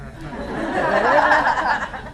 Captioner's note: laughter